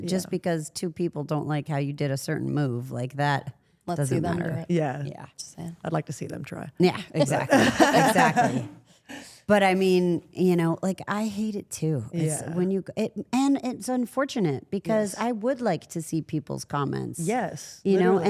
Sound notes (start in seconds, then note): 7.2 Rhea laughs